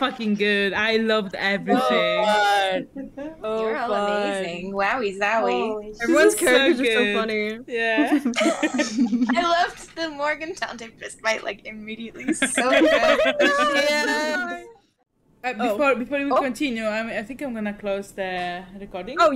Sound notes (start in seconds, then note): 12.6 sounds of agreement